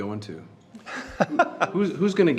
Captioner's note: laughs